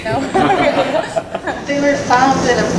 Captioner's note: audience laughs